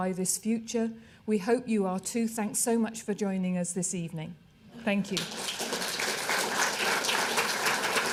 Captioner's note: applause